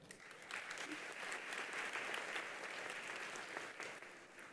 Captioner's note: attendees applauding